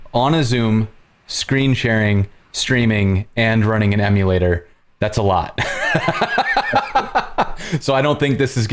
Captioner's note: laughter